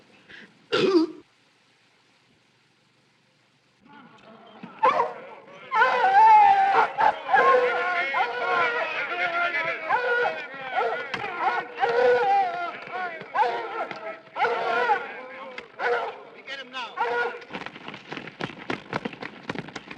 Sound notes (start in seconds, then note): 2.5 burps; 6.4 men shouting angrily; 9.8 dogs barking and howling